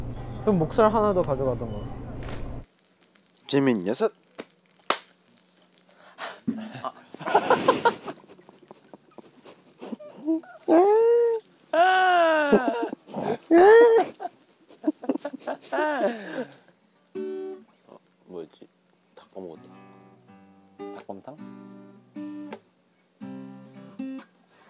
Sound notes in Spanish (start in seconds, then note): 6.1 Jajaja